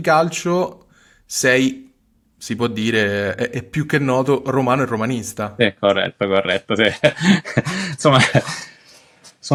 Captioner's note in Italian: risate